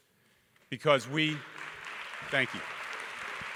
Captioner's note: audience clapping